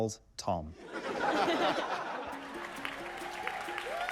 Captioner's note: laughter; cheering, applause